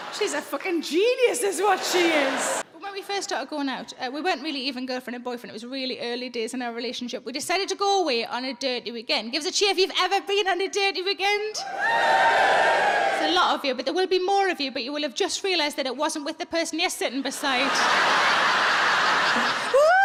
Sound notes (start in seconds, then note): 11.6 audience cheers; 17.2 audience laughs